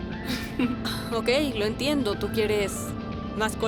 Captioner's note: Emma laughs